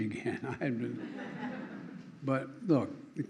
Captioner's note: laughter